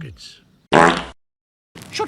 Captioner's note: fart